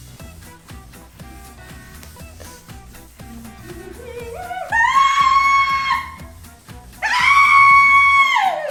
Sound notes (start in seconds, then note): 3.1 hums; 3.6 shrieks